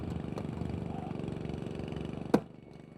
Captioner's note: engine noises